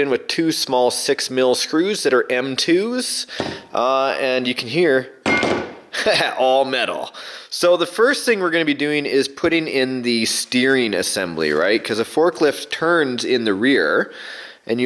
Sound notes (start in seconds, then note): 5.2 metallic clang; 6.2 laughs